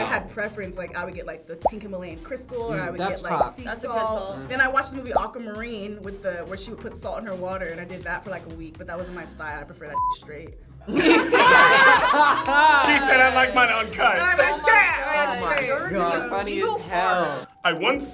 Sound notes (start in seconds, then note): 10.8 group laughs